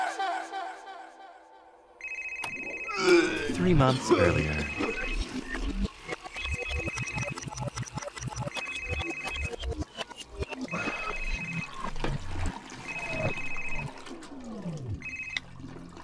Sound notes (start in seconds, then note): 2.0 phone rings; 2.9 Max vomits; 6.4 phone rings